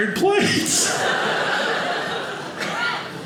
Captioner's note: audience laughing